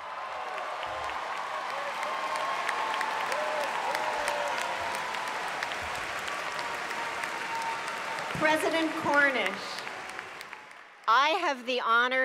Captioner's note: applause